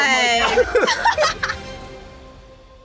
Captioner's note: laughter